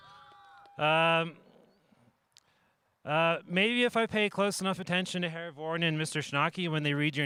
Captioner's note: cheering